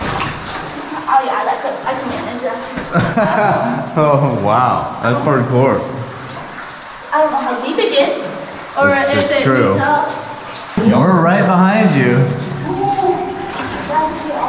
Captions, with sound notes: oh yeah i can manage that (laughs) wow that's hardcore i don't know how deep it gets or if it meets up that's true we are right behind you